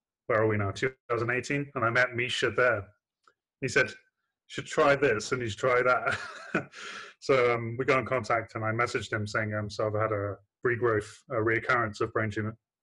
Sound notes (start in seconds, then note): 6.0 laughing